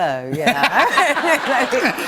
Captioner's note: laughter